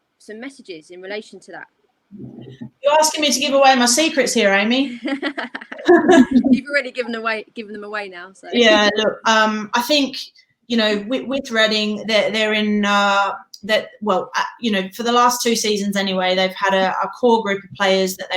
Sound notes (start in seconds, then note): 4.9 laughing